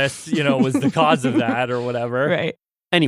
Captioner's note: laughs